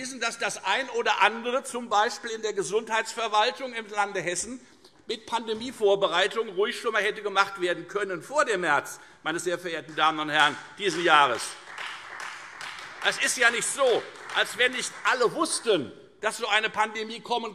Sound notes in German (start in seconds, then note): 8.7 Beifall Freie Demokraten